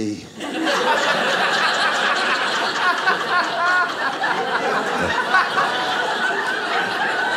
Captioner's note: audience laughing